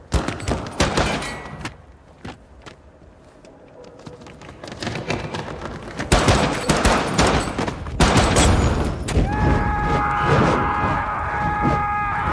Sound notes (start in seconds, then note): 4.9 footsteps thudding; 6.0 guns firing; 9.2 man screaming